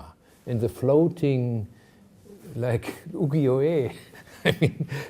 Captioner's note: chuckling